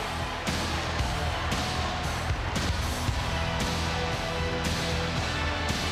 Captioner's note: crowd cheering; upbeat rock music continues